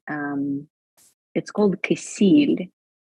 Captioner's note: speaking in Ukraine